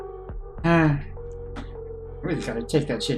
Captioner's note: sighs